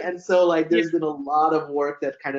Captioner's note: laughs